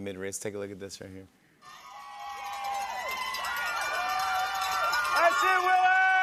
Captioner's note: cheers and applause